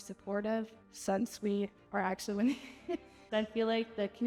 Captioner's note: laughs